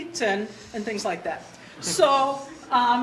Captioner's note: audience laughter